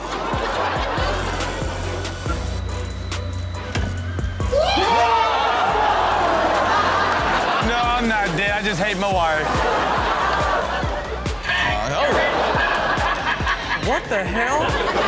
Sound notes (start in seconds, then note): 0.0 audience laughs; 4.6 man screams; 4.7 audience laughs; 10.8 scary sound; 14.8 audience laughs